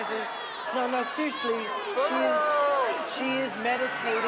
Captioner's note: booing